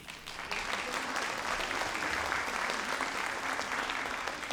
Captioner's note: audience applauds